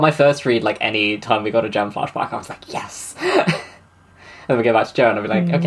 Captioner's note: laughs